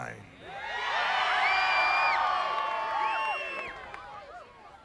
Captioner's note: crowd cheering